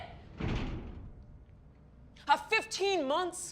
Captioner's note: door closes